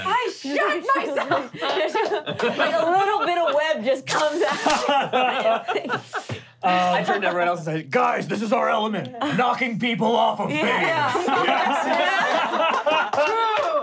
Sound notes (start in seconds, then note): 4.5 laughing; 10.7 laughing